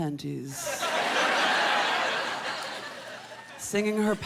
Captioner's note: laughter